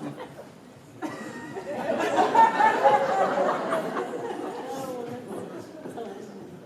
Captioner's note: more laughter